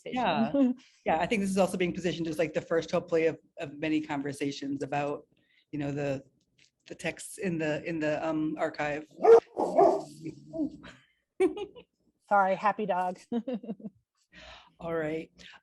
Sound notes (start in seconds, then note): 9.2 dog barks